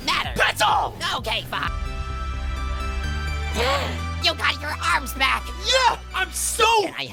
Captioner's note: gasp